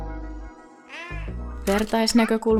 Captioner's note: 𝘣𝘢𝘣𝘺 𝘤𝘰𝘰𝘪𝘯𝘨 𝘢𝘯𝘥 𝘤𝘢𝘮𝘦𝘳𝘢 𝘴𝘩𝘶𝘵𝘵𝘦𝘳 𝘤𝘭𝘪𝘤𝘬𝘪𝘯𝘨